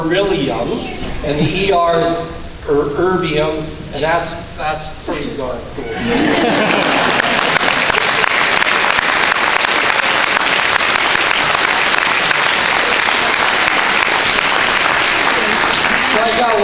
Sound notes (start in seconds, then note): 5.8 laughter and cheering